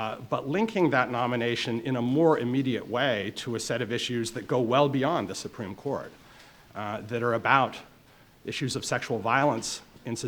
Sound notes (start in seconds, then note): none